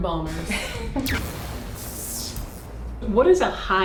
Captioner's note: laughing; lightning striking